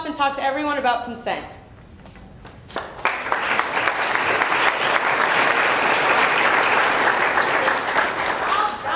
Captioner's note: applause